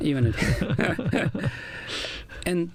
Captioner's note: laughter